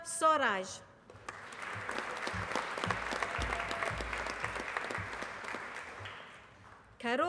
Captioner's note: applause